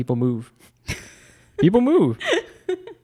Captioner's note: laughs